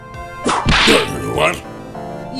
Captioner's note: whip crack!